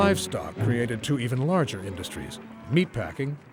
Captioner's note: pigs squealing